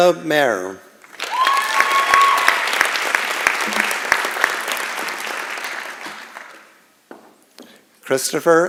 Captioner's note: applause and Cheering